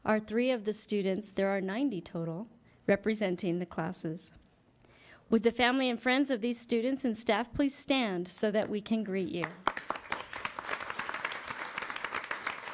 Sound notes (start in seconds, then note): 9.4 applause